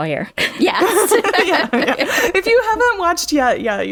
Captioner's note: laughter